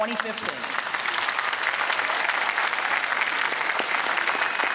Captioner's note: applause